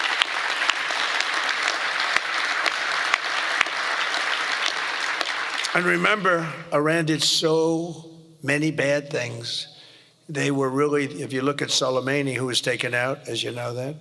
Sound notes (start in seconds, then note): 8.1 applause